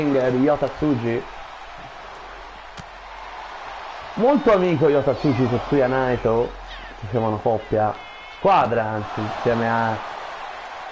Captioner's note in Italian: Applauso